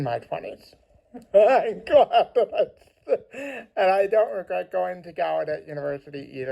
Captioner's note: laughs